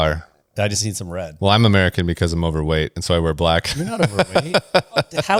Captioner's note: laughs